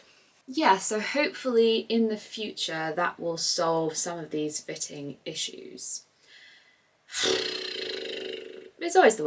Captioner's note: blows raspberry